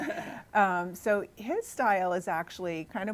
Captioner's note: laughing